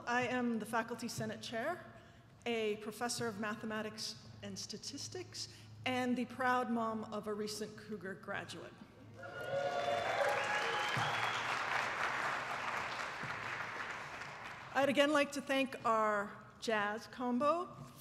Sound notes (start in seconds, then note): 9.2 attendees applauding